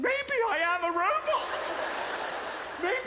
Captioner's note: laughter